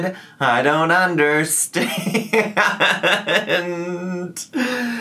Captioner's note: laughs